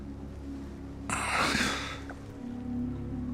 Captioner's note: sigh